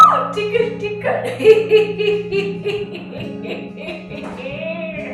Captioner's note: laughs